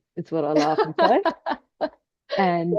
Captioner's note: laughs